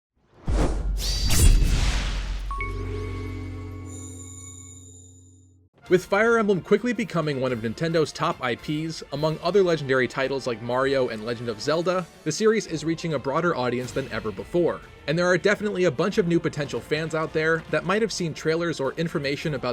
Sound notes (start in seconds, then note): 0.3 swoosh; 0.5 sword slash; 2.4 intro jingle